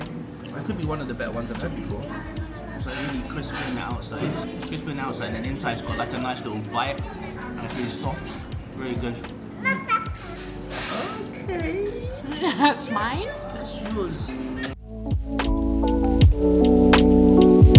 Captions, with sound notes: That could be one of the best ones I've ever bought. So I'm gonna be crisping it outside. Crisping it outside and inside, it's got like a nice little bite. And it's really soft, really good. (baby babbling) - Okay. - Yeah, that's mine? - That's yours. (upbeat music)